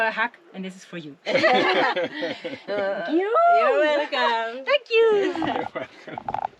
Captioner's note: laughter